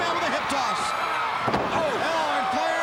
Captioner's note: crowd cheering